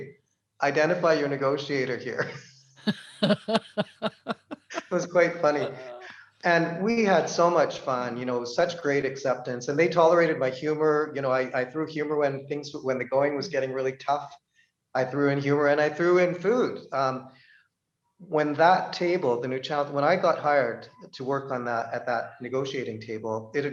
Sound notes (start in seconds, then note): 2.0 laughter